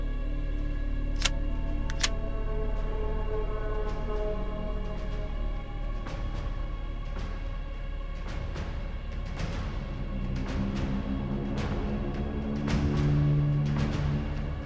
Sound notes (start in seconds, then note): 1.8 gun clicks; 2.6 slow music; 11.2 slow music continues